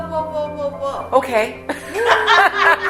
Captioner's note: laughter